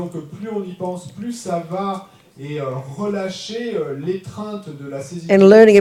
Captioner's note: French